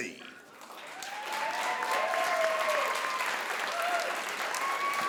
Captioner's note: crowd applauds